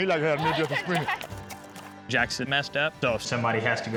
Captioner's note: laughter